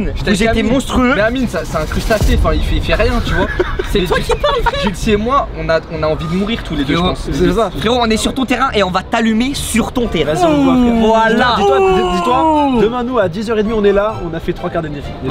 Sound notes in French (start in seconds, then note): 3.4 rire